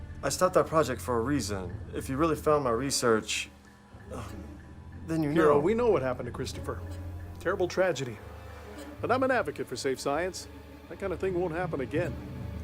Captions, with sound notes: ...I stopped that project for a reason. If you really found my research... *sigh* ...then you know-- Piero, we know what happened to Christopher. Terrible tragedy. But I'm an advocate for safe science. That kinda thing won't happen again!